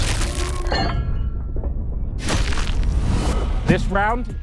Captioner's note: metal clanging